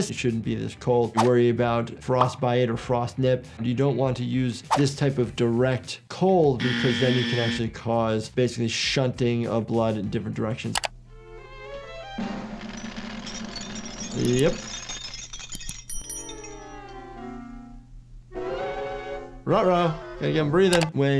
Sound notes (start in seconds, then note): 12.0 drum roll; 12.7 ice clinking; 15.2 frozen Tom clinking